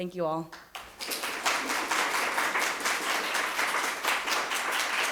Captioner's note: everyone applauding